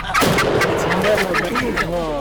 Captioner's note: turkey clucking; gunshot